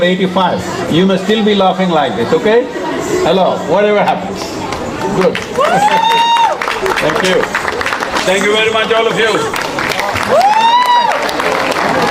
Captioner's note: cheering/Applause